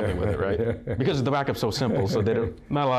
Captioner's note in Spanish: Risa jovial